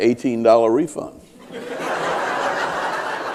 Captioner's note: laughter